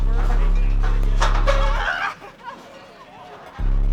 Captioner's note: competitor screams